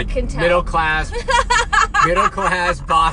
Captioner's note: laughs